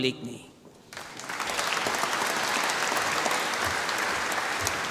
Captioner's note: applause